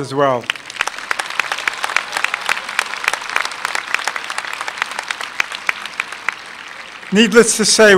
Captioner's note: applause